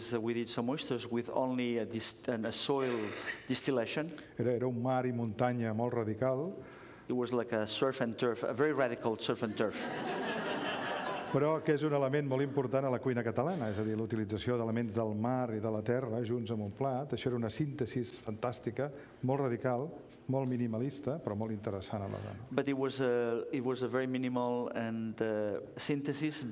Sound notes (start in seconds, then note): 5.4 speaking catalan; 9.4 laughter; 15.6 speaking catalan